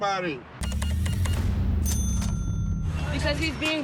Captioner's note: beeping; cash register dings